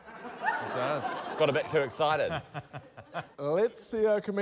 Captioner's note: laughter